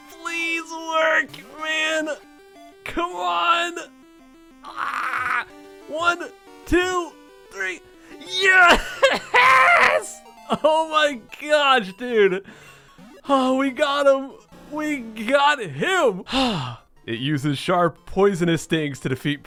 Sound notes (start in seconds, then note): 4.7 gurgles; 16.2 sighs